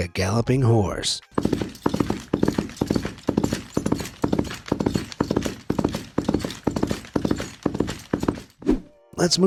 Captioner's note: thuds and clanks